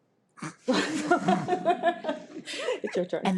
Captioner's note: trustees laugh